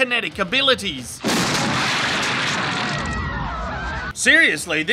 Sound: explosion

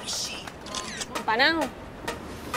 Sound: none

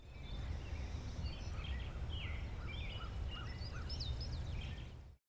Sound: birds chirping

